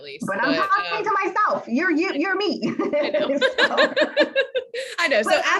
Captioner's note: laughing